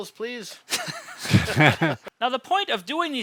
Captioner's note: all laughing